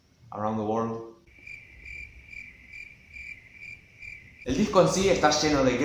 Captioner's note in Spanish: grillos